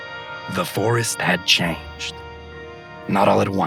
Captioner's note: mysterious voice